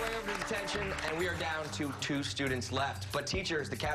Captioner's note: applause